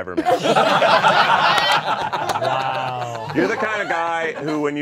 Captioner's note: all laughing